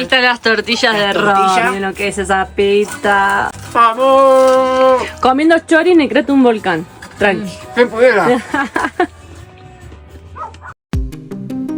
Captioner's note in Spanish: risas